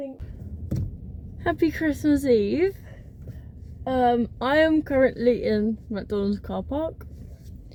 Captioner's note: taps steering wheel